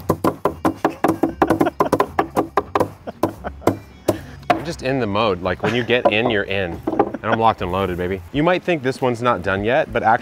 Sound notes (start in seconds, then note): 0.6 laughing; 3.0 wood pounding